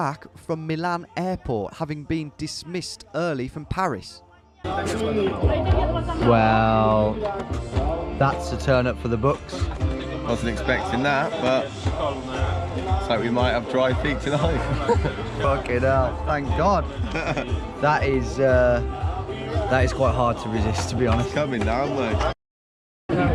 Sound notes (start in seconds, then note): 4.5 speaking in a foreign language; 14.4 laughing; 17.0 laughing